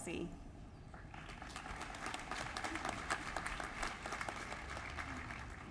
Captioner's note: applause